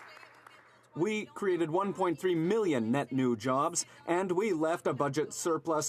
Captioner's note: some Applause